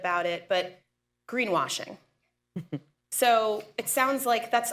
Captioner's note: laughs